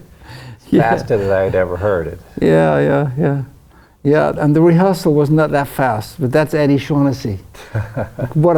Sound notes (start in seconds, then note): 0.6 laughs